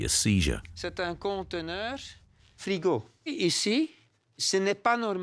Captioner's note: French spoken audio